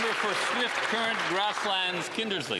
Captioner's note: applause